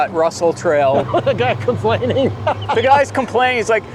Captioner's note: laughs